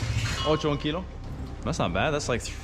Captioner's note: speaking Spanish